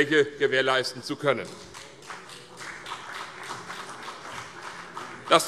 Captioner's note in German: Beifall CDU und BÜNDNIS 90/DIE GRÜNEN